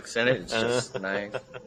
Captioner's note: Destin laughing